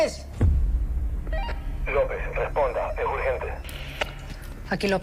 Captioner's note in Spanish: Pitido